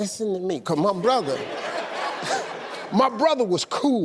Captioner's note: audience laughing